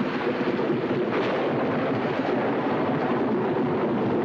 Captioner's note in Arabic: عواء الريح